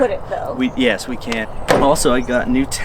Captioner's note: thumps fist on aluminum